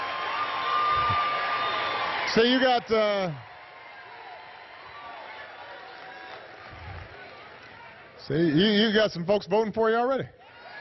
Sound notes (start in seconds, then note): 7.4 applause